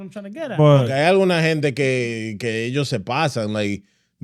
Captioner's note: speaking In Foreign Language